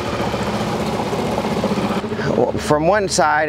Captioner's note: engine chugging